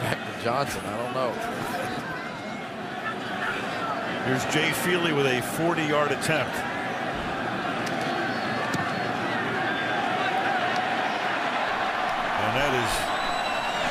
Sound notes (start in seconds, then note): 11.8 cheering